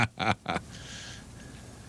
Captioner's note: laughing